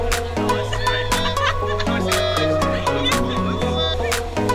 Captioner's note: woman laughs